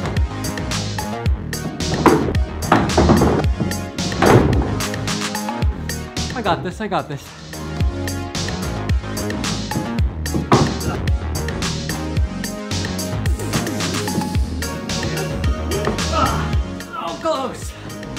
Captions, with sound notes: (clunking) I got this, I got this. (thunk) Ugh! So close!